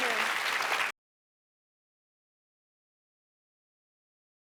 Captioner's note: applause